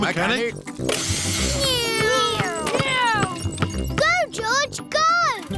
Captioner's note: whirring